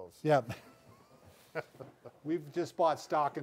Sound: chuckle

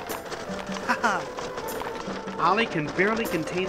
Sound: squawking; Ramses chuckling

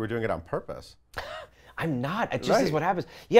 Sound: laughs

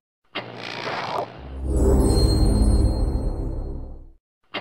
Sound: TV static and magically epic sounds continuing

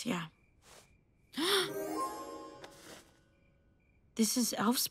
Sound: girl gasps

